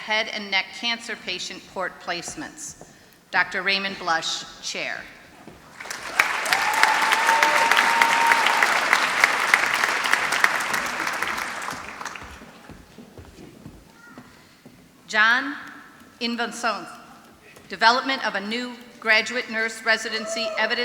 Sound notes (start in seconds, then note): 5.7 applause